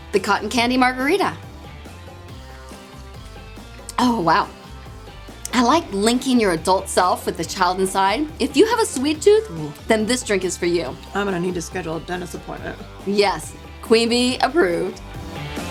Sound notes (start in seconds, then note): 2.4 sips